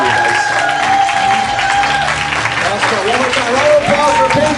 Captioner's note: applause